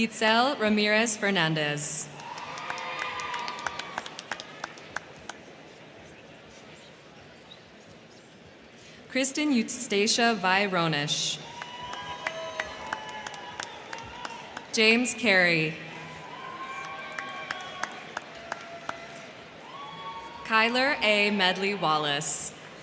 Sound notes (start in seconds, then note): 2.1 crowd cheering; 2.1 crowd clapping; 11.4 crowd cheering; 11.4 crowd clapping; 15.7 crowd cheering; 15.9 crowd clapping